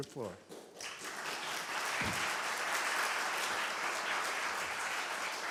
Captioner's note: applause